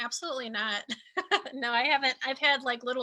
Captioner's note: laughing